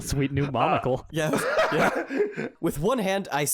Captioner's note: laugh